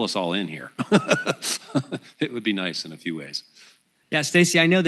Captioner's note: laughs